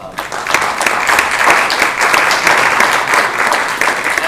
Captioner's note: applause